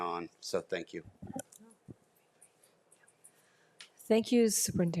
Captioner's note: trustees whispering